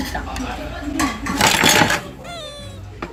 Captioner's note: clattering noisily